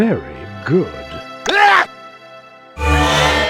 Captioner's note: screams